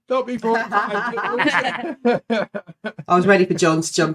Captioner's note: laughing